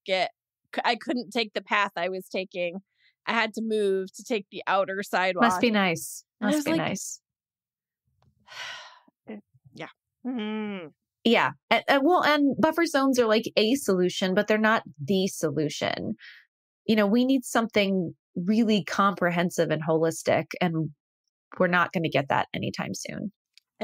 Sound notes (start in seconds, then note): 8.5 sigh